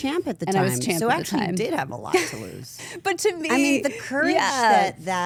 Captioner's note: laughs